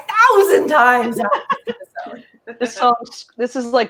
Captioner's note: laughing